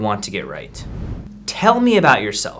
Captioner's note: air whooshing